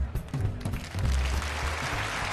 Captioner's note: audience applauding